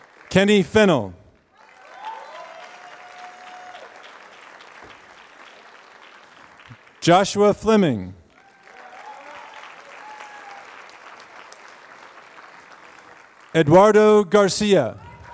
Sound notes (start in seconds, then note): 1.5 applause; 8.5 applause; 14.4 applause